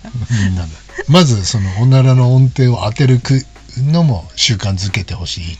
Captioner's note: laughs